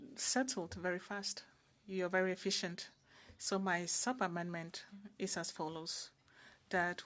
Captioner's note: speaking French